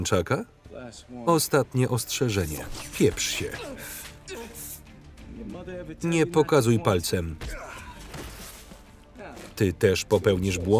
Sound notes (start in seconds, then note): 3.2 grunting; 7.4 punching